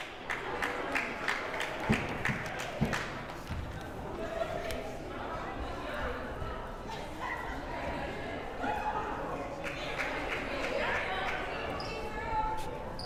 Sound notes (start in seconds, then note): 0.0 crowd applauding; 3.9 crowd murmuring